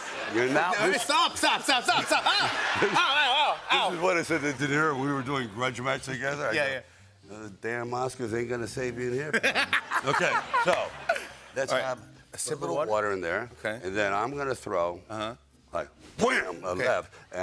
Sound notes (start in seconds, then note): 0.0 laughter; 9.3 laughter